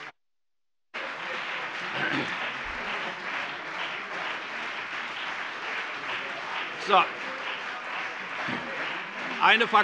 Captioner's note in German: Beifall CDU und BÜNDNIS 90/DIE GRÜNEN